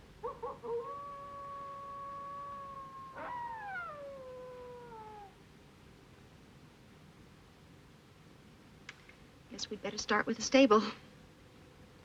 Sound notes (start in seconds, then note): 0.2 howling; 3.2 whimpering